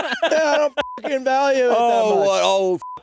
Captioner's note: beeping